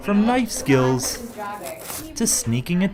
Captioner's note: knife cuts rhubarb